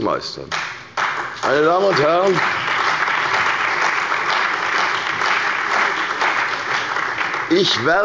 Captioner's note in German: Beifall bei der CDU und dem BÜNDNIS 90/DIE GRÜNEN